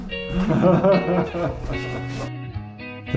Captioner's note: more laughing